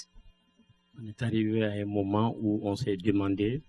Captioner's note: speaking french